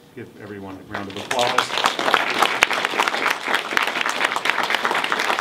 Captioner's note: everyone applauds